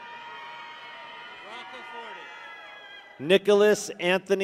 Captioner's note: people cheer